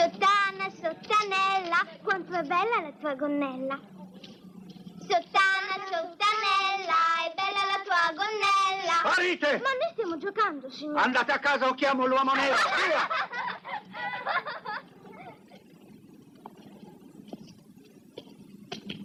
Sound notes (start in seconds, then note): 12.3 screaming and laughing